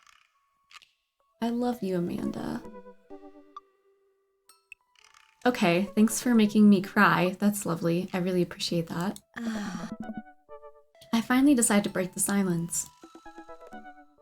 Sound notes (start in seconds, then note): 9.3 sighs